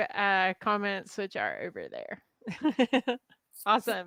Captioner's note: laughs